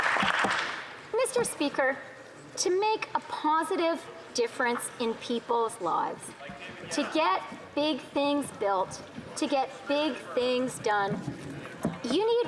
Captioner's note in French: applaudissements